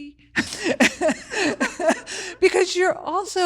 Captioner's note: both laugh